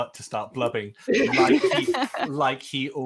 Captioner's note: laughing